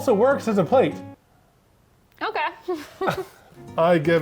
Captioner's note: laughs